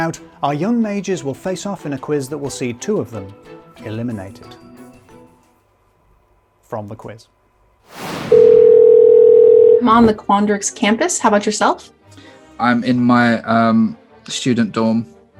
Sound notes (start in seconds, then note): 7.8 air whooshing; 8.3 phone ringing